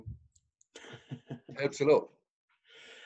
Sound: laughs

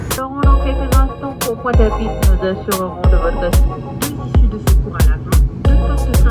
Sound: stewardess speaks in foreign language

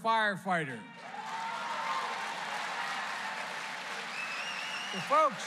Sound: applause

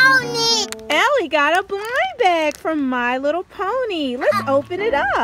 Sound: voiceover

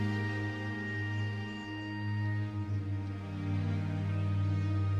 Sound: birds chirping

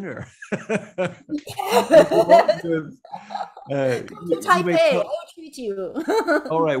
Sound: both laughing

